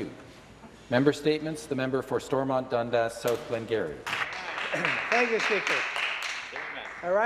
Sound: some Applause

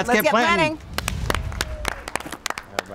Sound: applaud

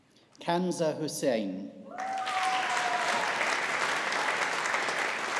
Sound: audience applauding

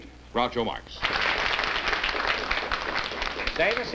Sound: applause

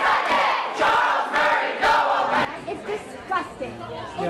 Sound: chanting

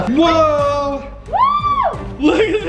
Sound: excited scream

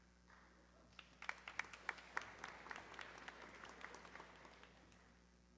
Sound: audience clapping

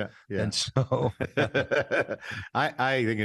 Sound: both laughing

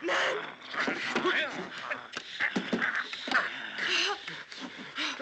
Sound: Joe groaning

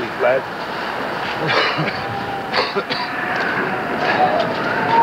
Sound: Anton coughs

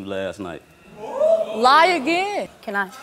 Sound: audience oohing

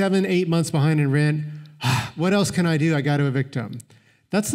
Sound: exhales

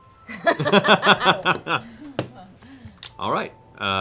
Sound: laughing

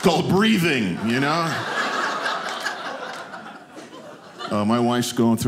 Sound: audience laughing

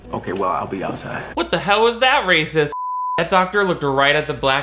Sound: beep

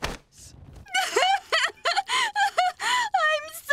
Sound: sobbing

